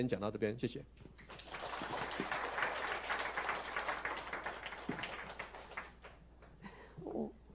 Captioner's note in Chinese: 掌聲